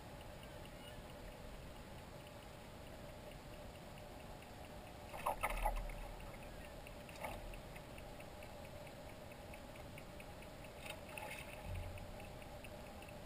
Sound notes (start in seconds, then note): 10.2 splash, splash